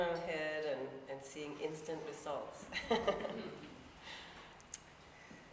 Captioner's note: laughs